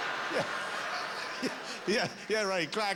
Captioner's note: laughter